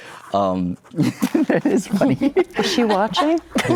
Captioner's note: laughs